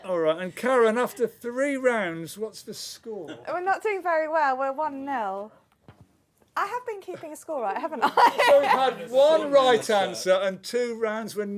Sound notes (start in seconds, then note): 8.0 laughs